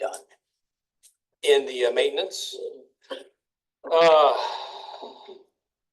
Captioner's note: sighs